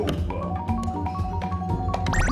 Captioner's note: slot Machine Jingles